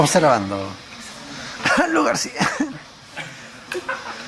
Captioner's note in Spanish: tosiendo